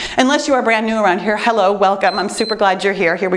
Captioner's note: timer beeps